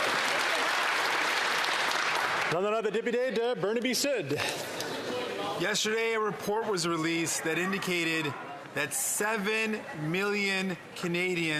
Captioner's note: some Applause